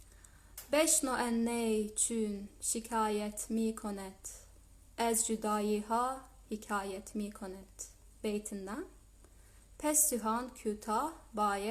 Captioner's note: reading the first and last couplets in Farsi